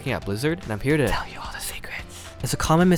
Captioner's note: whispers